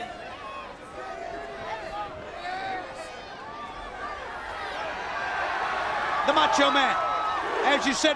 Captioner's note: crowd cheering